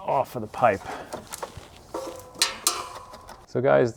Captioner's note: drilling